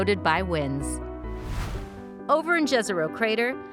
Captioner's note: whooshing; uplifting music